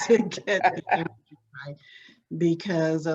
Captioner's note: laughs